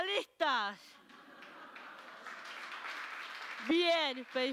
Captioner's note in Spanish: Aplausos